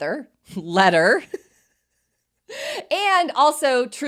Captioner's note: both laughing